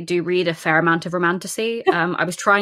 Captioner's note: laughs